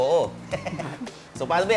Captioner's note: laughs